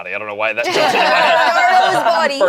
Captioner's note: group laughs